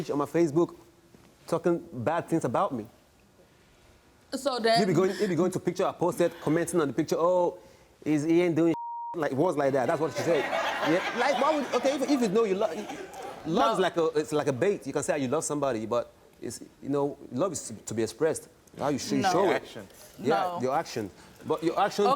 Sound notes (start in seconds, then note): 8.7 beep; 9.8 audience laughs